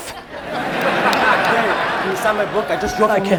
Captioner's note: audience laughs